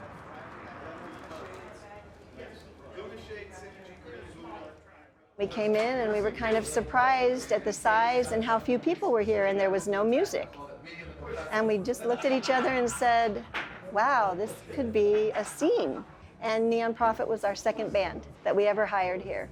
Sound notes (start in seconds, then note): 2.1 bar ambience